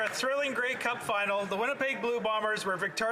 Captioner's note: some Applause